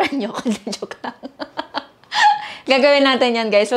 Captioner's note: laughs